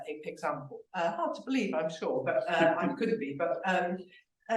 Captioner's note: laughing